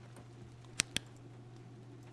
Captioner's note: flashlight Clicks Off